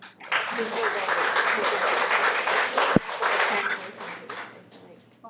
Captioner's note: audience clapping